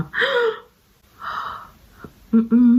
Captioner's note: gasps